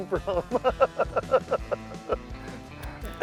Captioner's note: laughs